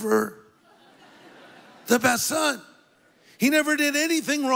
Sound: congregation laughs

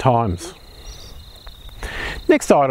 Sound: birds chirping

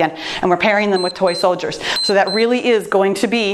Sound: timer beeps

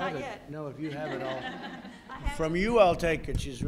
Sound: laughter

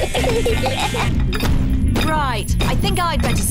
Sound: feet stamping

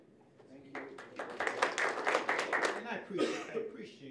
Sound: applause

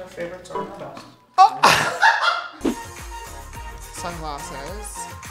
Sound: laughter

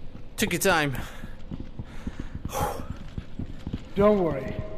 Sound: exhale

